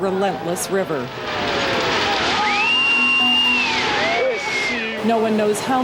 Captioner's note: screaming